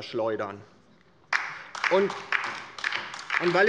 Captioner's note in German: Beifall bei der LINKEN